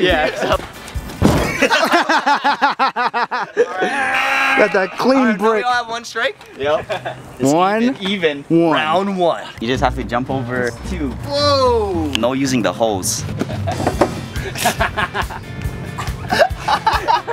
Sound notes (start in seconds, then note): 1.4 everyone laughs; 14.3 laughs